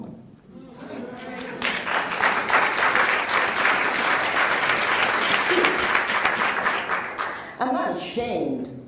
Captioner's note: applauds